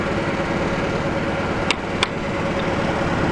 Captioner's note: hammer tapping